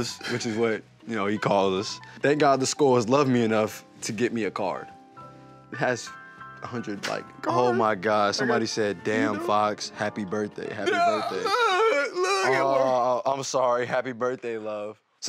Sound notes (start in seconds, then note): 10.9 groaning, laughing